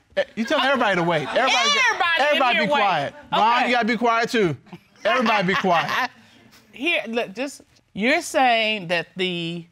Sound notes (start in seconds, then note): 5.0 laughs